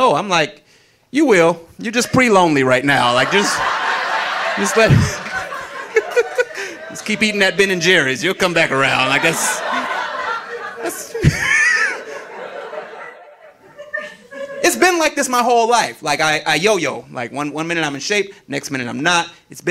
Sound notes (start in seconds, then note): 3.4 audience laughing; 5.1 laughs; 10.3 audience laughing